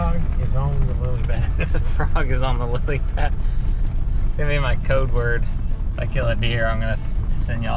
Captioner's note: laughs